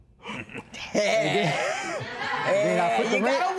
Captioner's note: laughter